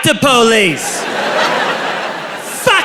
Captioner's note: crowd laughs